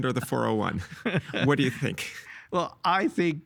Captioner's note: chuckling